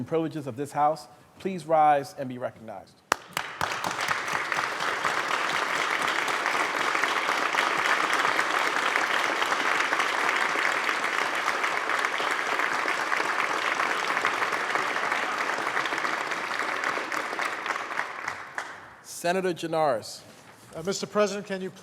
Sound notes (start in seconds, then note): 4.8 applause